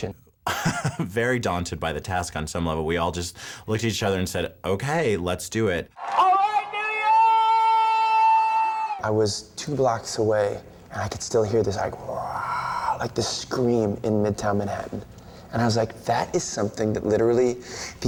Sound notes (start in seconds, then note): 12.1 makes roar sound